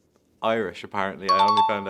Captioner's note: chime dings